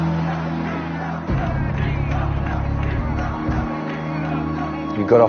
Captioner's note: fans chanting